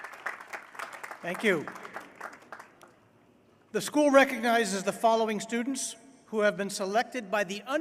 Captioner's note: applause